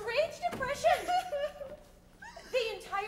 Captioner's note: Constance cries